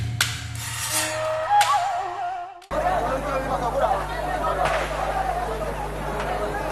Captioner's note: people shouting in foreign language and gunshots